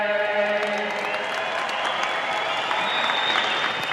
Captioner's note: audience applauds